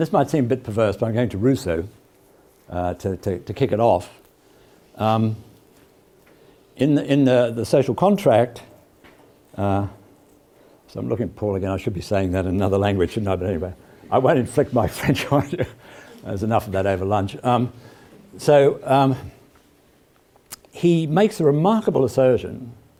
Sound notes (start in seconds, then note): 15.0 laugh